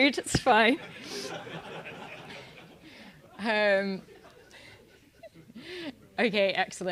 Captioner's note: laugh